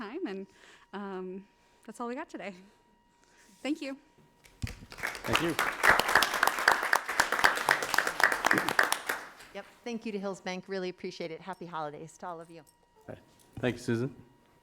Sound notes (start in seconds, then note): 4.4 crowd claps